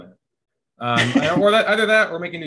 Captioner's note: laughing